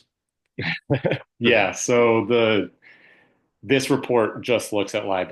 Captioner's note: laughs